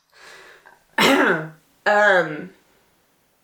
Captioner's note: clears throat guiltily